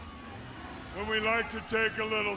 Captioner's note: crowd chatter